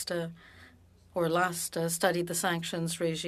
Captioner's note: speaking French